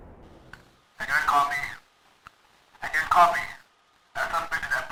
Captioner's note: walkie talkie